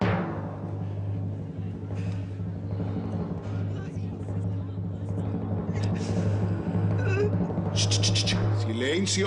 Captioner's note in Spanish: Redoble; Murmullo del público